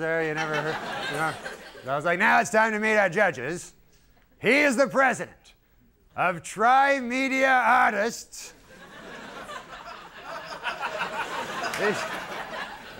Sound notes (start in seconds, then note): 0.2 audience laughing; 8.6 audience laughing